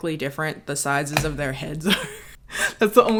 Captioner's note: laughs